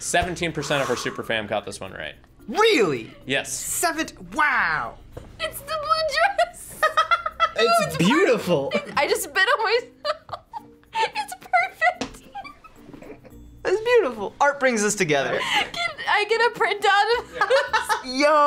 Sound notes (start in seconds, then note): 6.7 laughs; 12.1 laughs